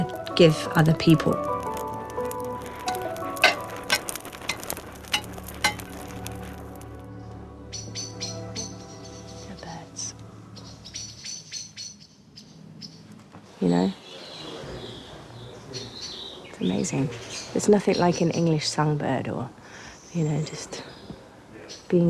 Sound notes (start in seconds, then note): 6.1 birds chirping; 7.8 whispers